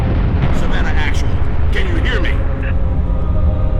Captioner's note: radio